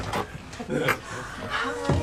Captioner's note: man chuckles